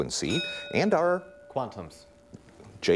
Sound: dings

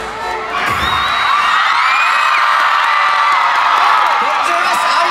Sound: the first song performance ended with huge cheers!

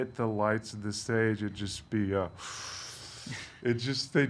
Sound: inhales loudly

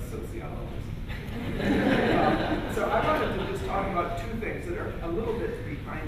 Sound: laughter

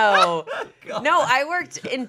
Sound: laughing

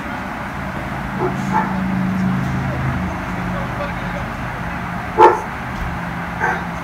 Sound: dog barking

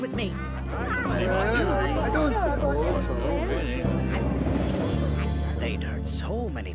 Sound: rats discussing

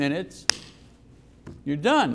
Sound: claps hands

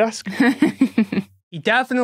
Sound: snickers

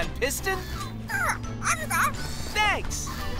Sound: squeaking

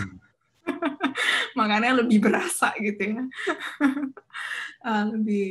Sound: chuckles

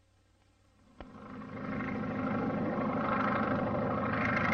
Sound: biplane propeller noises

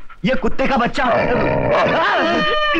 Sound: dog Barking

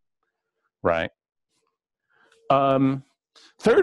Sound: pause

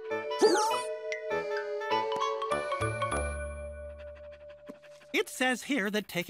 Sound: hiccups

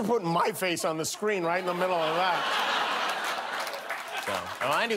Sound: applause

